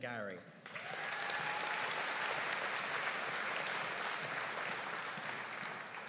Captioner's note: audience cheering and applauding